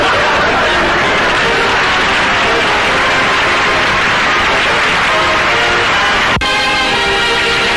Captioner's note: audience laughter; audience applause